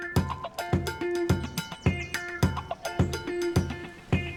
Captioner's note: upbeat music; birds chirping